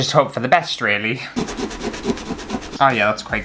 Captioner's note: scrub